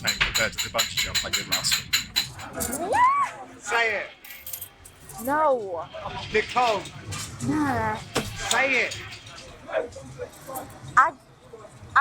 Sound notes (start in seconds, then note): 2.8 Nicole squealing